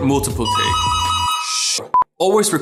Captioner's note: phone rings